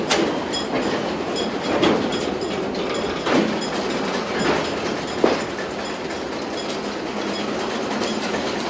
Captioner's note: railcar rumbling and clanking